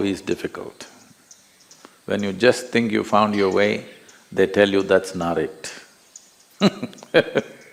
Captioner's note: laughs